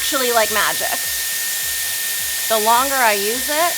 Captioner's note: dryer whirs